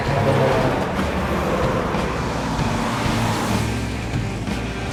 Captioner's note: tires squealing